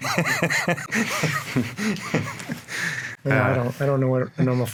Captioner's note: all laughing